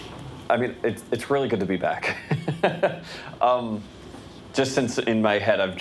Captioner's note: laughs